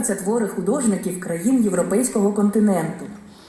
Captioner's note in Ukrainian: звучить аудіозапис